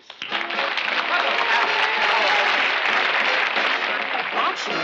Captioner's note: applause